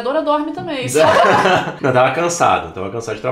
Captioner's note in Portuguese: risos